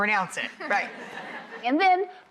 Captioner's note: audience laughs